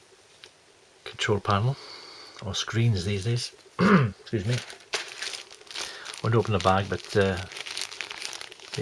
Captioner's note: cough